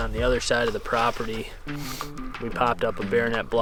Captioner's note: sniffles